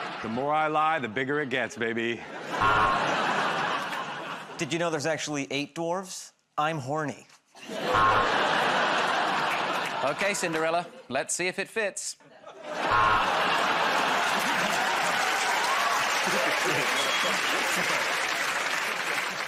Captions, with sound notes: -The more I lie, the bigger it gets, baby. [ Buzzer buzzes ] -Did you know there's actually eight dwarves? I'm Horny. [ Buzzer buzzes ] -Okay, Cinderella. Let's see if it fits. [ Buzzer buzzes ] [ Laughter ] [ Cheers and applause ]